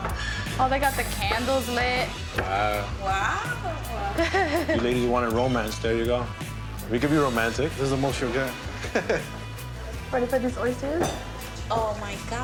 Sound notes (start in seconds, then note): 8.8 laughs